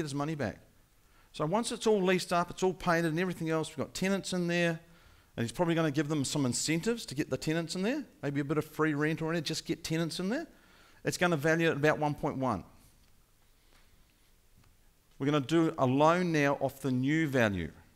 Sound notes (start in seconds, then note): none